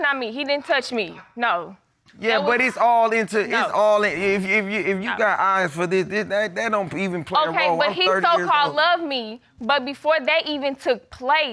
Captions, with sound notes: He didn't touch me. No. Yeah, but it's all into... It's all into... [stutters] If you got eyes for this, that don't even play a role. -I'm 30 years old. -But he so-called loved me. But before that even took place,